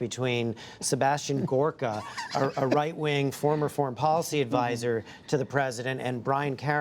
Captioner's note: laughter